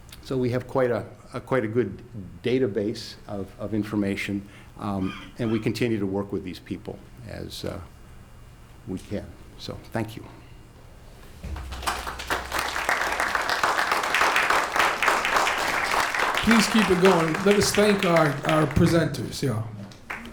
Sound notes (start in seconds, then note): 12.6 applause